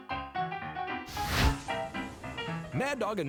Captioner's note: fire sizzling